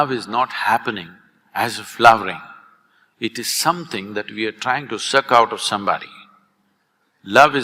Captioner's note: none